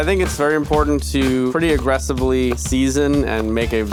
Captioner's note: upbeat music; knife chopping